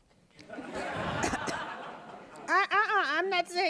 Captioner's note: audience laughing